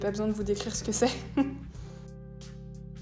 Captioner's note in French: rire